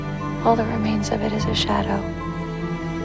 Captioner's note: voiceover